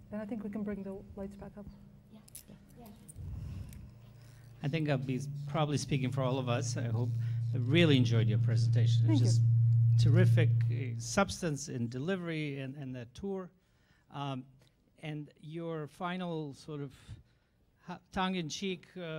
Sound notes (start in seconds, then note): 4.8 voiceover; 10.1 voiceover